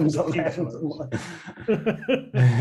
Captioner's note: laughter